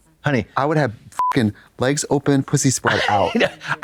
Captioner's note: beep